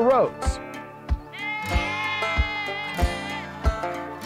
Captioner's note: sheep bleating; country banjo music